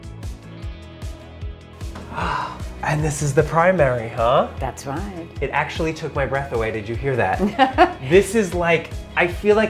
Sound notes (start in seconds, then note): 2.0 gasps; 7.4 laughs